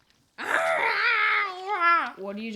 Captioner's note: growls